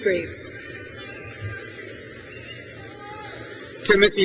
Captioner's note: crowd cheers